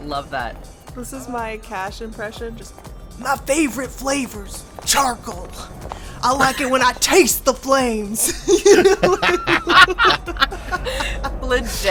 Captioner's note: EVERYONE laughs